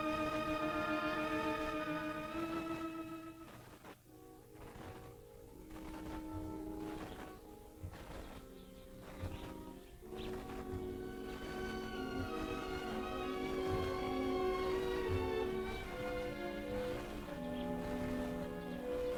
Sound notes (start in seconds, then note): 5.4 birds chirping; 5.4 suspenseful music